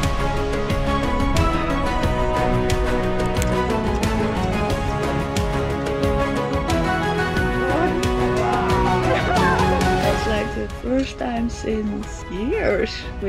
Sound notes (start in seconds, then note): 0.2 upbeat music; 7.6 laughs